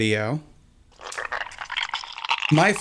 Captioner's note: slime squelches